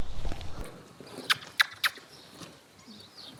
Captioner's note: kisses sound